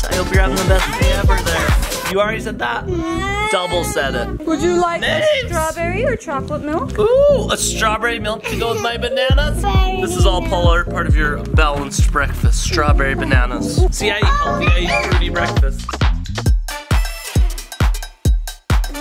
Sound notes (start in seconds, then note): 4.1 whining; 8.2 laughs